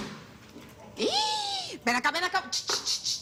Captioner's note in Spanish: Grito ahogado